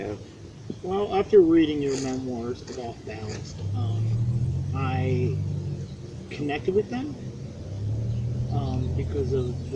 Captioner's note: car drives